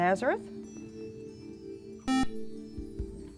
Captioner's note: buzzer